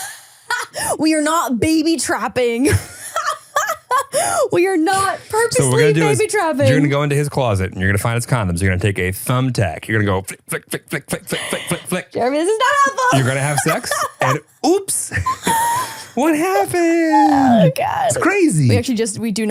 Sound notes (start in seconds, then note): 2.7 laughs